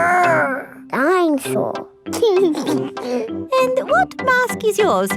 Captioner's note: giggles